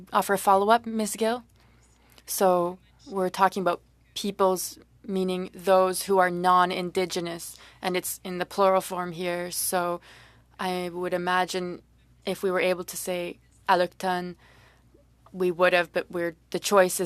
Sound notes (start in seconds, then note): 1.3 speaking French